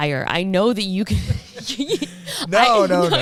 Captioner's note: laughing